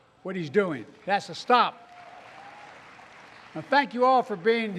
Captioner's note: applause